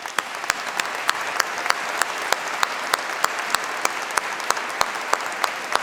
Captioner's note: applause